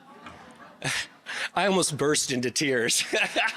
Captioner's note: chuckling; laughing